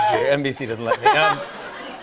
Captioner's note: laughter